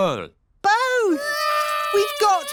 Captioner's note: babies cry